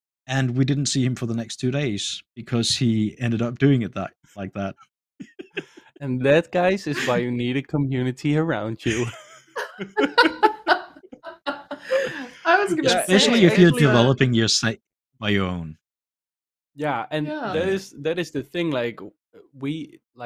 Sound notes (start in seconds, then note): 5.2 laughs; 8.8 laughter